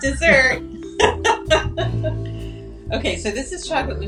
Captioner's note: laughs